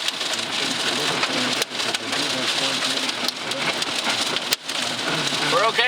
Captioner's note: hail pattering